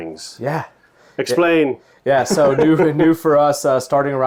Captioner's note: laughs